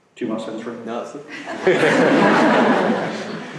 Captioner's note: voiceover; laughter